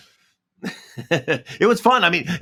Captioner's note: Paul laughs